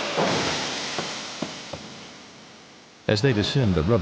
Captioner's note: slide inflating